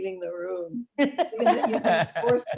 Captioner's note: laughing